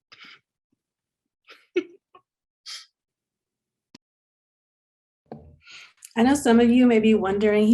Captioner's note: laughs